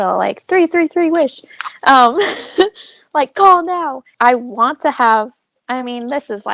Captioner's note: laughs